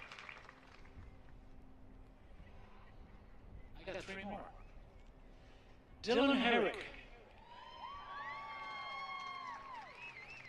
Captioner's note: applause